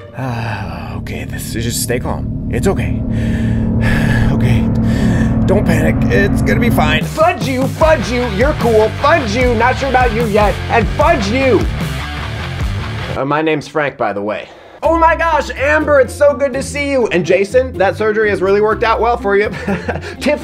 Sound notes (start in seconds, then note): 0.0 sighing; 3.0 sighing; 11.5 rock music playing